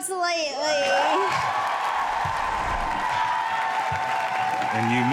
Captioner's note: crowd cheering